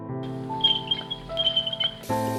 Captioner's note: walker wheels squeak